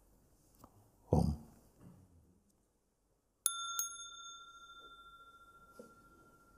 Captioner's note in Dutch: rinkelt bel